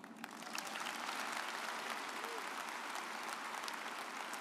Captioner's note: audience applauds